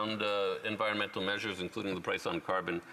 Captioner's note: speaking French